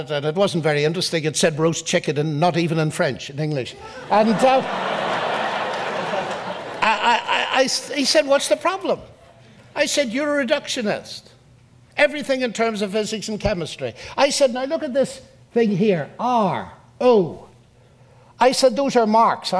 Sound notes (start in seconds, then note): 3.8 audience laughs